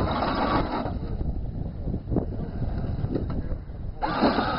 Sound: robot motor noise

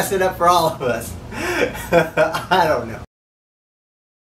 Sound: laughs

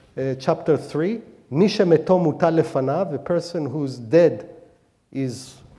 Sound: speaking hebrew

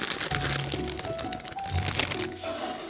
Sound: bag opening

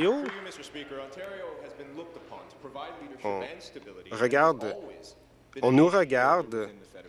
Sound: applause

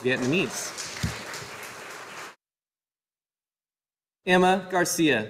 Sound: audience applauding

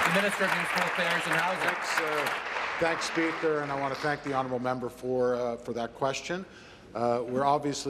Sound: applause

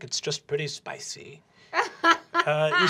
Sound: laughter

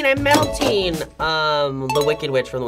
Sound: bell dings

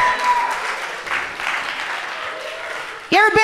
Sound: audience applauding gently

